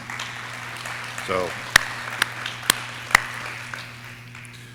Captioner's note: audience clapping